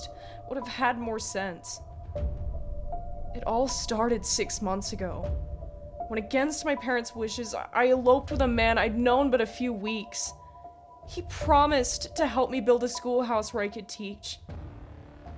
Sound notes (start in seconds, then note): none